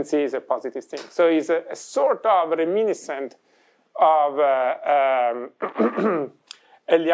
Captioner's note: clears throat